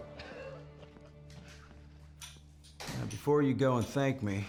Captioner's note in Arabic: ضحكة مكتومة